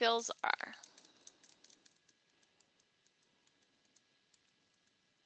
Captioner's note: fast typing